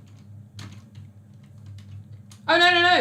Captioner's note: keyboard clicks